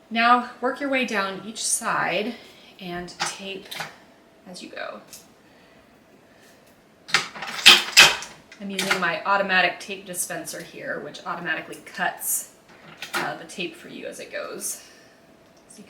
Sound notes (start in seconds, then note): 8.7 dispenser clacking